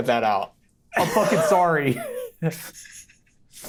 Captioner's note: laughs